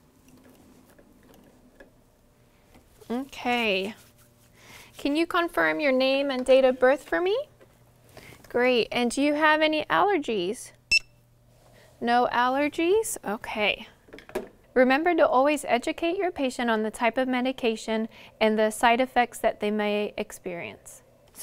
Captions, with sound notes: Okay. Can you confirm your name and date of birth for me? Great, and do you have any allergies? (beep) No allergies? Okay, remember to always educate your patient on the type of medication and the side effects that they might experience.